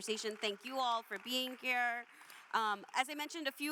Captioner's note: attendees applauding